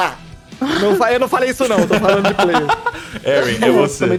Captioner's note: laughter